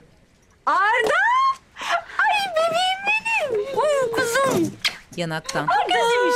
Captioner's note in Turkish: Öpme sesi